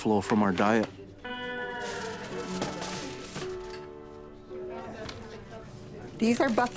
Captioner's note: aluminum foil rattling